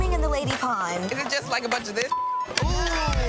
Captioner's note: clapping hands; people laughing